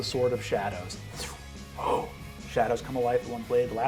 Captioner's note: mimics magical whoosh